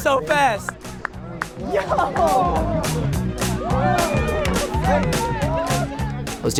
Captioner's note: crowd/music